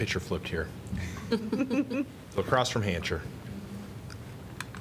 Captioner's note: laughter